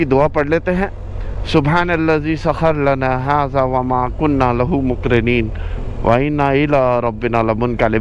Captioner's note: reciting travel dua